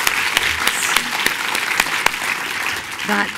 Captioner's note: applause